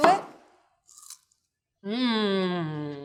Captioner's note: melon crunches